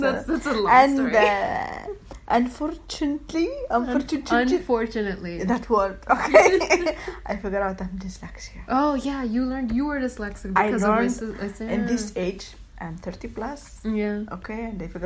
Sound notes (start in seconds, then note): 6.2 laughs